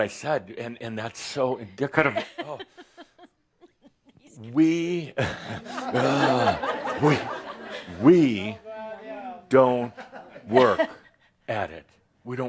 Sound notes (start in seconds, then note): 3.5 she’s giggles; 5.2 laughter